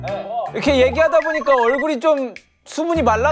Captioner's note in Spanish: Repitiendo